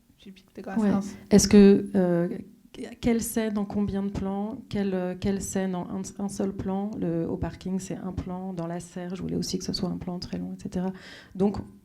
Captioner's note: speaking French